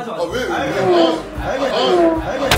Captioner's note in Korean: 슈웅